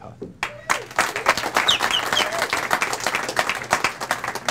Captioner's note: audience applauds